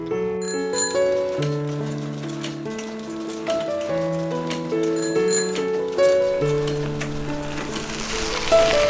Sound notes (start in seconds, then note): 0.0 soft piano music plays; 0.4 bicycle bell rings